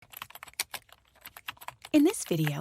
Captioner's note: keyboard typing